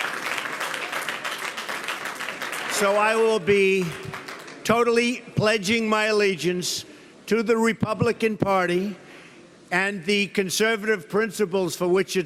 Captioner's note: applause